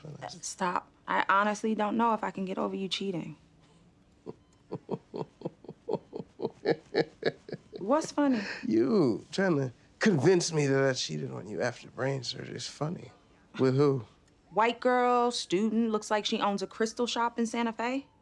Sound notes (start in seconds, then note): 4.2 chuckles